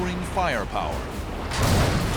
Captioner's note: explosion